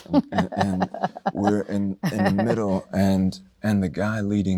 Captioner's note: chuckling